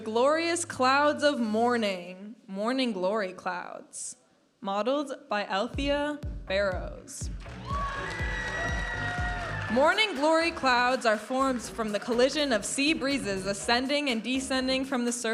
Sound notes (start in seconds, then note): 0.0 vibrant music; 7.4 audience applauding and cheering; 9.3 vibrant music